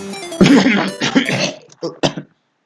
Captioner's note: cough